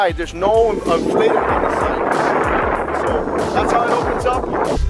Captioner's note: wind